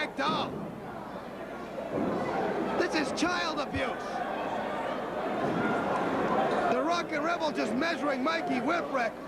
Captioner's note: crowd chattering